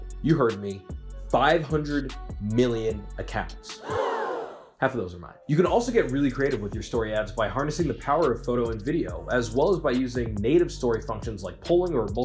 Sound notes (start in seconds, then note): 3.8 gasps